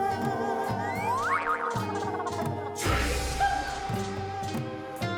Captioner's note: slide whistle whistles